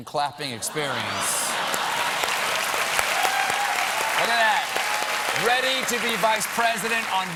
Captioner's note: cheers and applause